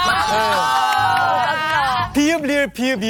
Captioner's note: exclaiming